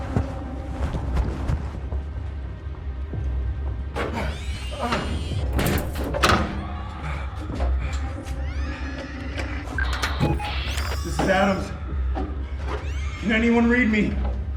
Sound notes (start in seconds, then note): 0.2 fast paced action music continues; 4.0 door slams shut; 9.4 radio static